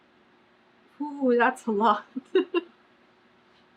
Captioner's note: laughs